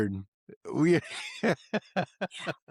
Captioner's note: laughing